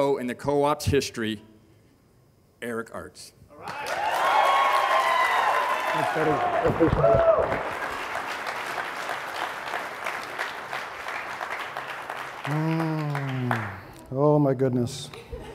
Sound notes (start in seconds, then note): 3.6 audience cheering; 4.6 audience applauding; 15.3 audience laughing